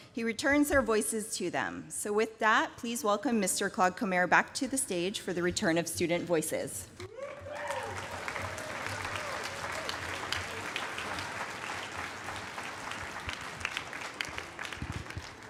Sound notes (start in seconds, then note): 7.2 applause